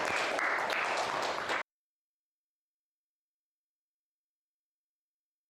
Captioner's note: audience applauding